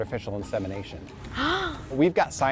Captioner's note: gasping